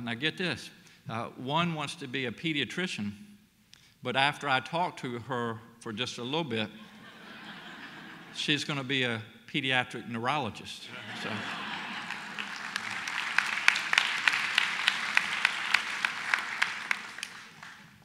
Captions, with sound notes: Now get this, one wants to be a pediatrician, but after I talked to her for just a little bit, (audience laughs) she's gonna be a pediatric neurologist. (laughter and applause)